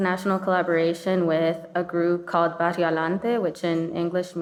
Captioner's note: speaking in foreign language